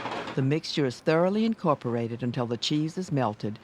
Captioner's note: voiceover